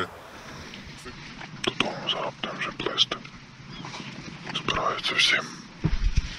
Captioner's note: whispering; sounds of woods